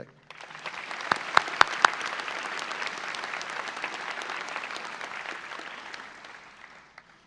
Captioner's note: audience applause